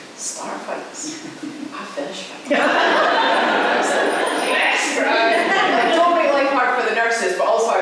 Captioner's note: laughter